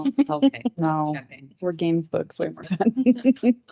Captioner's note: laughs